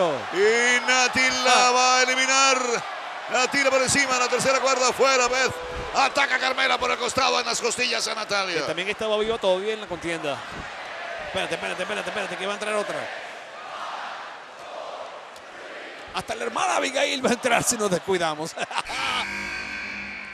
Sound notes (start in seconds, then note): 18.5 laugh